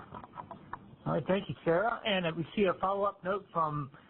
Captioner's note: voiceover